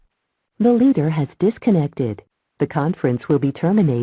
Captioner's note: automated Voice